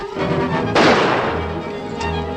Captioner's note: gunshot